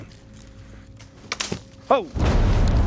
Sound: crack

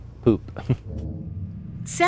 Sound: laughs

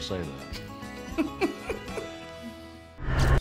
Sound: giggling

